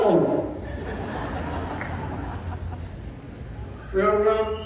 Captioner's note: laughter, Applause